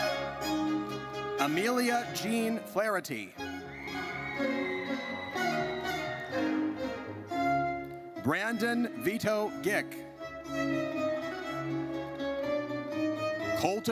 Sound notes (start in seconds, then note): 3.6 audience cheers; 10.5 triumphant music